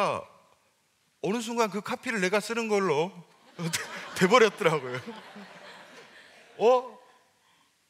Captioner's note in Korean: 웃음